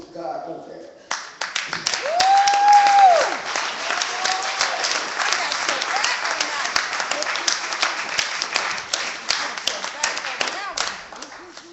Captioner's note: clapping